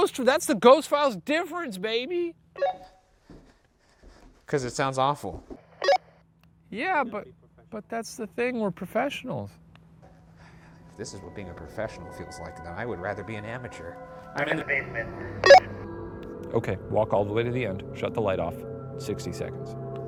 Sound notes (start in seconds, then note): 2.6 radio beeps; 5.8 radio beeps; 15.4 radio beeps